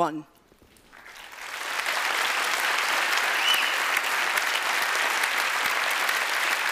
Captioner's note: applause